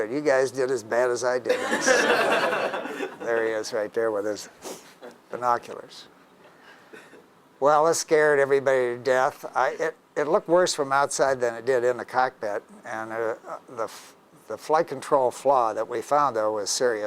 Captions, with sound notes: You guys did as bad as I did. [LAUGHING] There he is right there with his binoculars. Well, it scared everybody death. It looked worse from outside than it did in the cockpit. And the flight control flaw that we found though was serious.